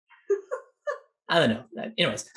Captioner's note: laughs